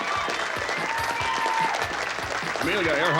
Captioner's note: audience cheering